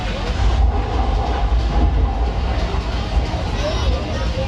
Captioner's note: wind blowing